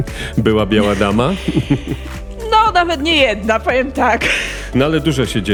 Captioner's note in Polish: śmiech